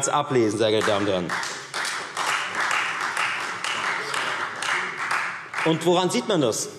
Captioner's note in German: Beifall Freie Demokraten